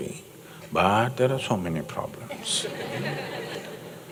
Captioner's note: laughter